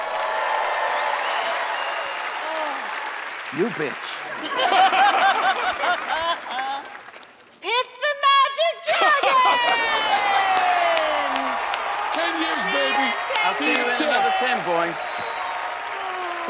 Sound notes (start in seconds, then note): 2.6 laughter; 8.2 cheers and applause